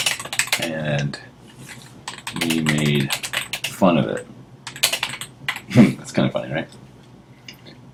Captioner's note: laugh